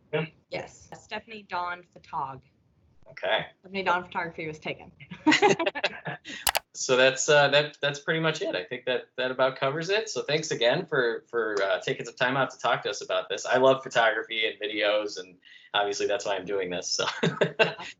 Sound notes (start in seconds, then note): 5.0 laughter; 16.9 laughter